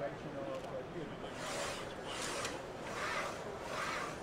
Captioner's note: whirring